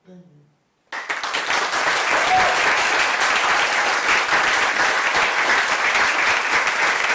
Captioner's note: audience applause